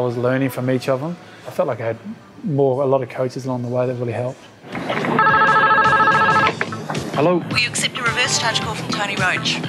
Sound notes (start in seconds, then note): 4.9 phone rings